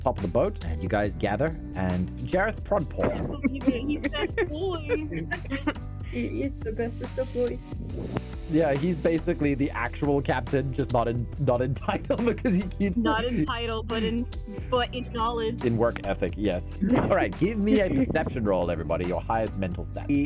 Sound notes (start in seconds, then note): 2.9 laughter